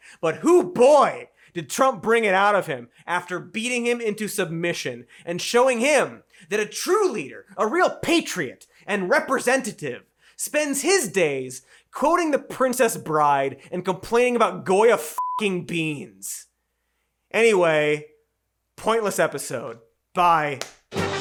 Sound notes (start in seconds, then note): 15.2 beeps